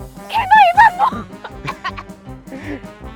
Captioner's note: suddenly choking